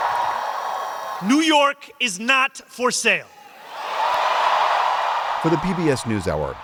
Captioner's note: cheering